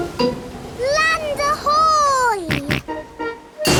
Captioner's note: snorts